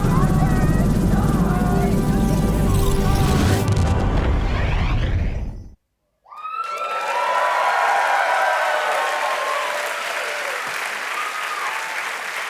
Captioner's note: cheers and applause